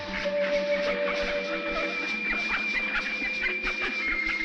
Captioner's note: ducks quacking